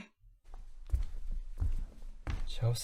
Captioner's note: footsteps retreating